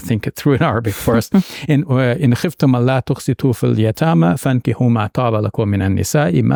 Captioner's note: speaking in Arabic